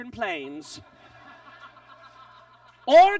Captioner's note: audience laughs